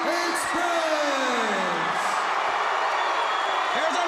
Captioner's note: crowd cheering